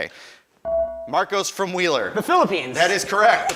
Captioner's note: ding